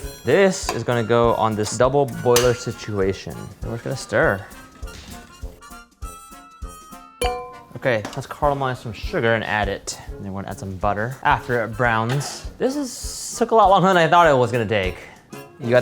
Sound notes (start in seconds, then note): 5.2 upbeat music; 7.2 bell dinging